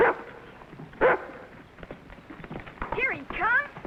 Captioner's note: dog barking